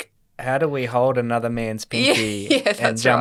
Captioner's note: chuckles